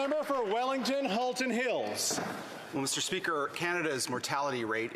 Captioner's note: some Applause